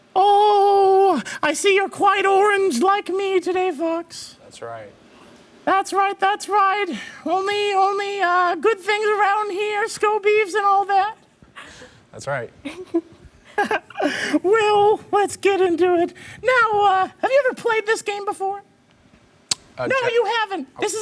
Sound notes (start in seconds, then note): 12.6 chuckles; 12.6 laughs